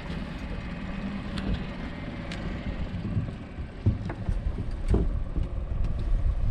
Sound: thunk; boat engine idling

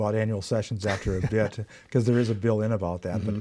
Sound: laughs

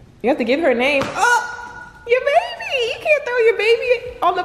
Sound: woman yells

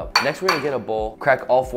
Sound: bowl clanging

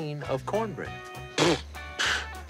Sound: disbelieving snort

